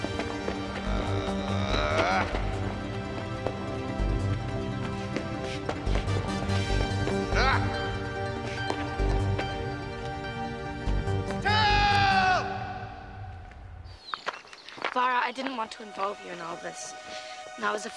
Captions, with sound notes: (Xax grunting) Tell! - Vara, I didn't want to involve you in all this.